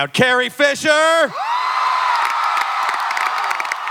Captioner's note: audience clapping and cheering